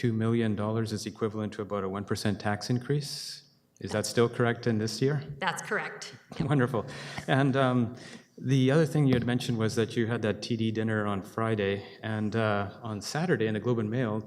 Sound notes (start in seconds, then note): 6.4 chuckling